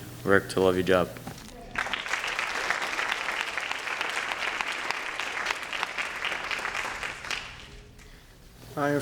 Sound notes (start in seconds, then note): 1.6 applause